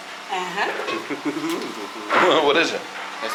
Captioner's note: giggles